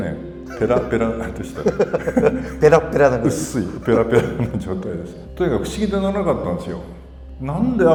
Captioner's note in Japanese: 笑い